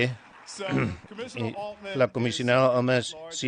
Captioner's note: applause